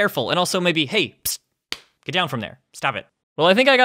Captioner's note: smack